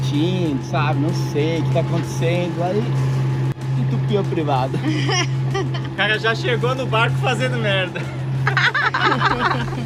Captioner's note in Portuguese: risadas